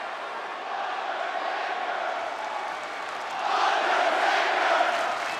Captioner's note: audience chanting and clapping